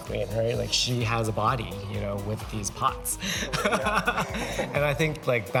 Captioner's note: chuckles